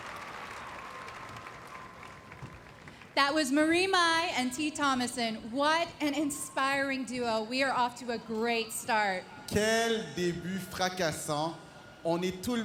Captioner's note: applause